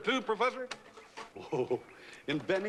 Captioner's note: chuckles